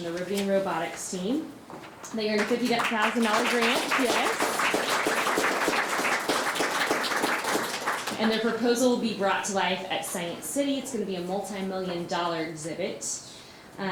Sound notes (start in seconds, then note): 4.3 audience clapping